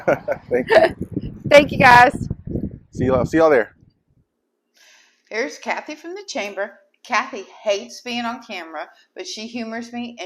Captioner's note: chuckling